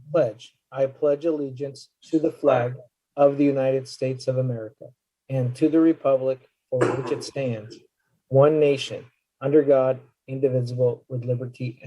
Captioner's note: reciting the pledge of allegiance